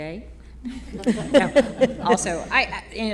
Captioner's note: all laughing